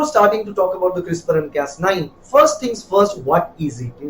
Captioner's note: Arabic